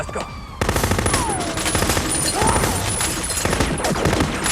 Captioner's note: machine gun firing